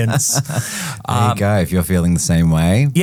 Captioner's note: laughing